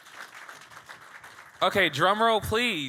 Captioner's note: audience clapping